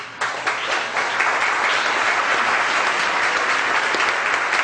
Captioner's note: audience applause